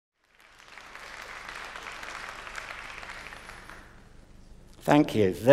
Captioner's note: applause